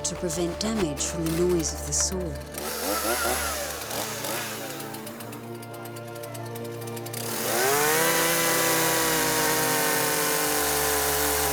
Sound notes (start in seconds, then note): 7.5 saw motor buzzes